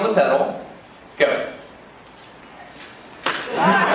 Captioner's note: laughing crowd